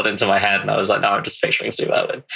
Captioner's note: laughing